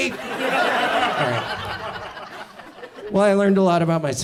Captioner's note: audience laughs